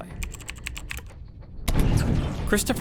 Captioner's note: keyboard clacking